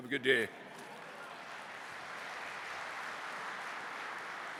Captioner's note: applause